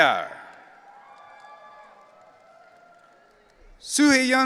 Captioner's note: audience cheering